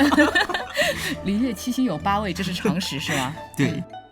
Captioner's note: sarcasm